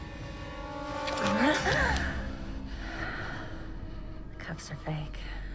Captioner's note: Elaine exclaiming